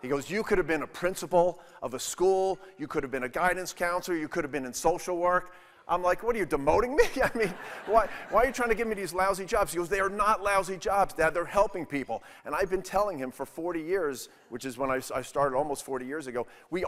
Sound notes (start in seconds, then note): 7.1 audience laughing